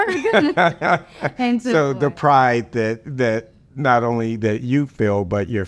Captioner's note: laughs